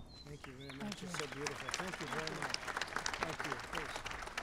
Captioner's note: applause